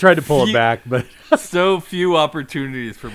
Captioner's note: laughs